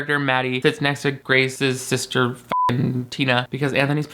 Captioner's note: beep